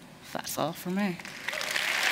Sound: applause

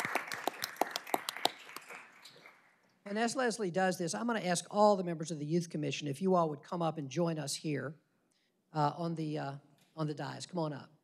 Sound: applause

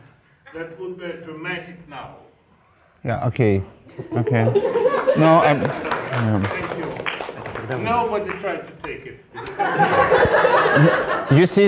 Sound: applause

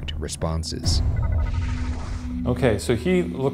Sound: screen whirring

